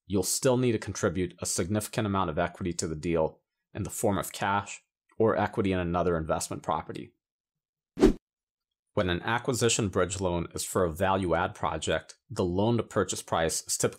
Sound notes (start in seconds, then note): 8.0 air whooshing